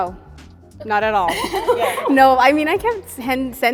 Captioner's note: women laugh